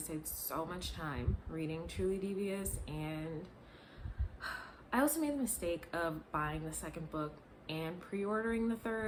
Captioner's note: sigh